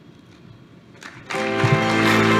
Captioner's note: applause